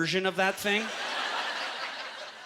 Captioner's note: audience laughter